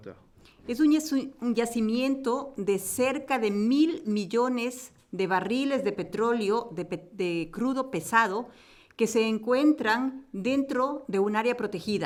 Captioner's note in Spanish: Español